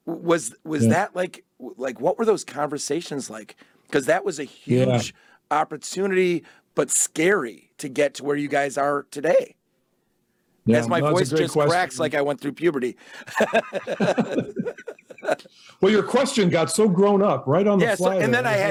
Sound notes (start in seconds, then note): 9.5 voice cracks on "today"; 13.2 both laugh